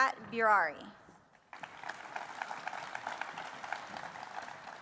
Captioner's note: applause